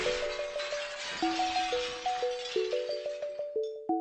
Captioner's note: SFX: glass breaking